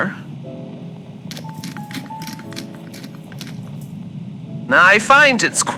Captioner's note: grinds peppercorns fx